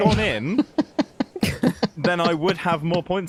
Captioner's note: laughs